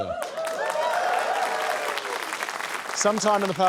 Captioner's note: cheering, applause